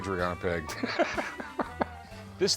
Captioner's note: laughs